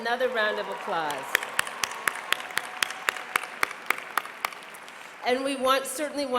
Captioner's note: applause